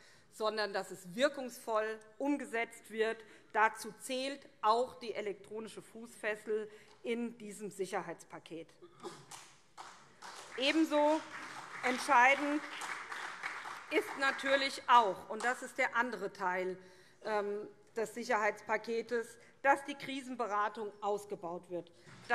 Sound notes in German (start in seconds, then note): 9.7 Beifall SPD, CDU und vereinzelt BÜNDNIS 90/DIE GRÜNEN